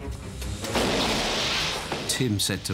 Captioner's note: gunshot